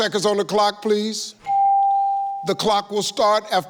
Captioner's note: computer beeps